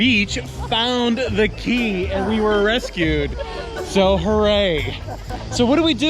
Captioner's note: water splashing